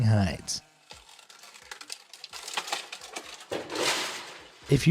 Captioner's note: tree cracking